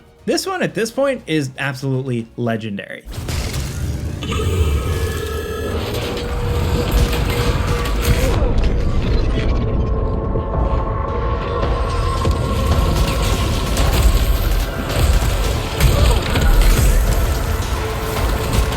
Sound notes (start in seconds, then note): 3.3 tense dramatic music; 6.3 guns blasting; 8.2 Selene grunts; 12.6 guns blasting